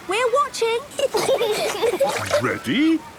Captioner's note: giggling